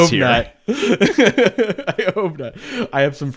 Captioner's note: laughs